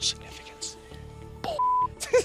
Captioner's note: whispering; laughs